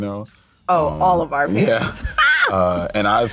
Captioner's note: laughs